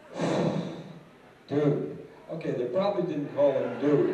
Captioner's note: sigh